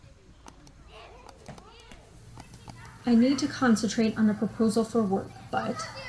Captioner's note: ambient sounds of household activities